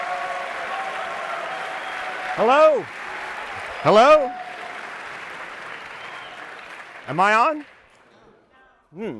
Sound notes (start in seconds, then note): 4.4 applause